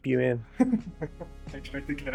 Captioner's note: laughing